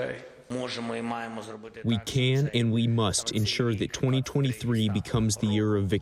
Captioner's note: through translator